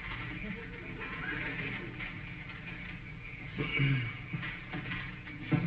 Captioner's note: audience snickering